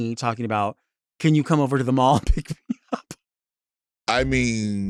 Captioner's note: chuckles